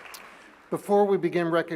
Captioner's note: applause